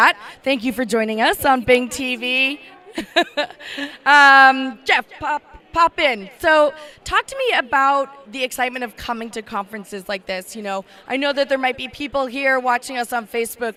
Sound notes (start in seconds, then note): 2.9 laugh